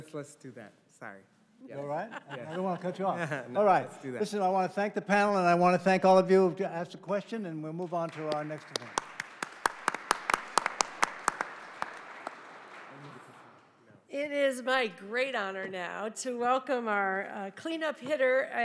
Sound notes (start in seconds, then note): 7.8 audience applauding